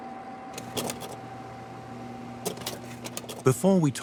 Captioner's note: projector whirs and clicks